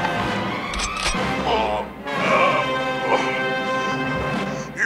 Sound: grunting in pain

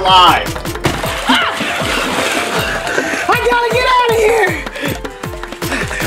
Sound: panting

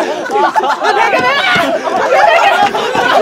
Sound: screaming after losing his pillow

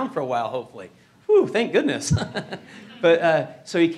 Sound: chuckles

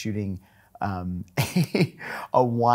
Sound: laughing

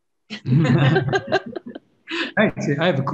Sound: panelists laughing

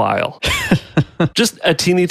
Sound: laughs

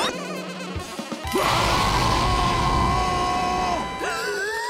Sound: roaring

